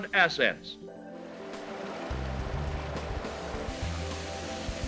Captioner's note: water gurgles; sizzling